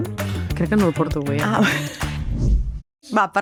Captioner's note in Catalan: rialles